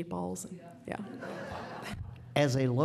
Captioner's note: laughter